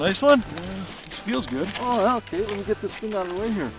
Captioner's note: voiceover